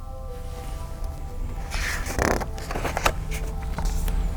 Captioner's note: page turns